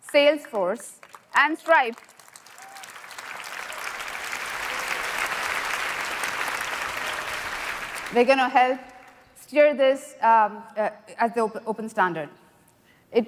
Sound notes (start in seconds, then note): 2.0 applause